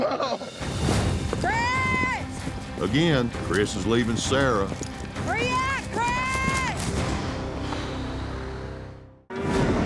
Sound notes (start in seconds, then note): 7.6 exhaling deeply